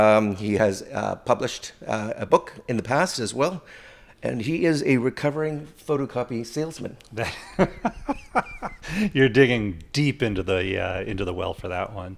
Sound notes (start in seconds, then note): 7.2 laughs